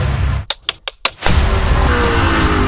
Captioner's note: film slate clapping; dramatic music